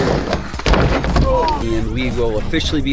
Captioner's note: groaning